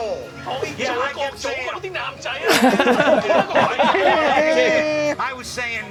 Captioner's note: people speaking foreign language